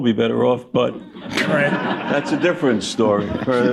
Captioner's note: laughter